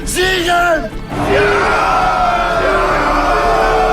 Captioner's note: cheering